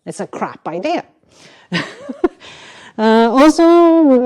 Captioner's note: chuckles